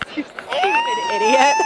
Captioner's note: frustrated, high pitched, moan